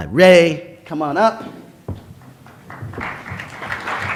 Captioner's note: applause